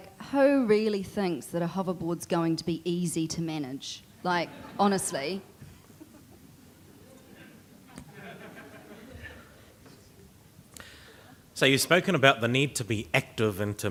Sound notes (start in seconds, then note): 5.7 audience laughter